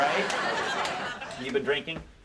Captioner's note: audience laughing